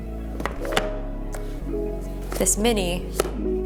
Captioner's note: boxes clink